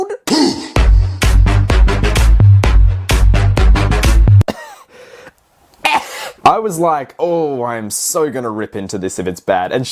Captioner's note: coughs